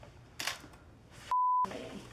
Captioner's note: camera clicks